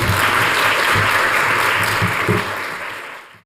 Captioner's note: applause